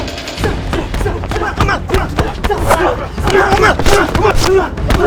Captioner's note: Ramsay vocalizing